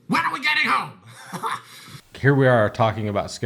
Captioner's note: laughs